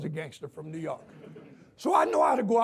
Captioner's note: audience laughs